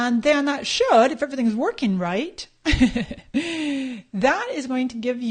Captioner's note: laughs